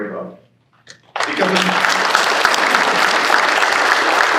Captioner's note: applause